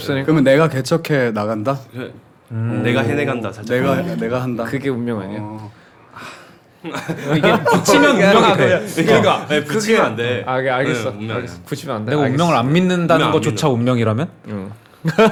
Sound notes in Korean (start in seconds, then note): 6.1 하아